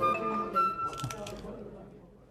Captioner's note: crunching